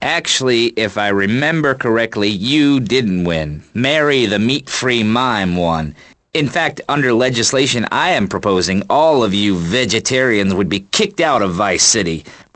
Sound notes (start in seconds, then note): none